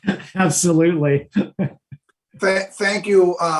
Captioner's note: chuckling